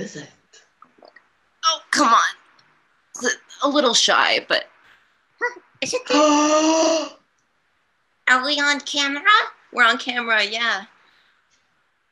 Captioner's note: gasps